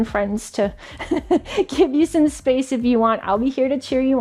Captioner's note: laughs